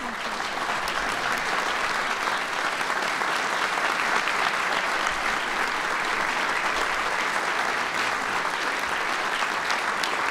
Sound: applause

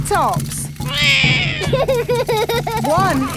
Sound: roars; laughs

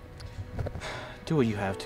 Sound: Ace sighs

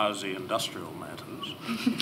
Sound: laughter

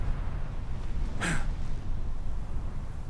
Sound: grunt

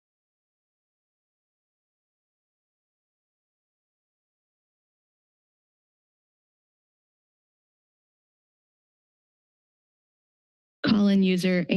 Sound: silence

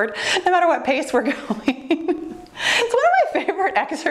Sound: laughs

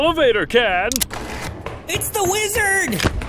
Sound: button sound

